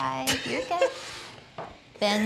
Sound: laughing

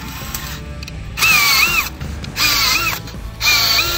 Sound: drill screeching

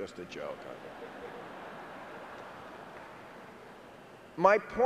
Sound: audience chuckling

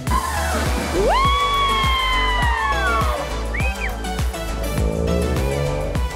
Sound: upbeat music; everyone cheering

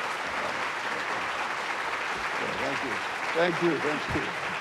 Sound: applause

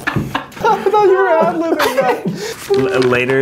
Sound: laughing

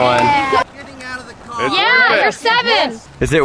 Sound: driver yelling

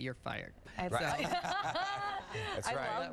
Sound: laughter

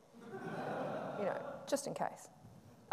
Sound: audience laughing

